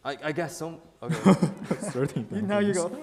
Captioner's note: laughing